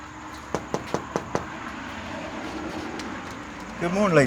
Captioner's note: door knocking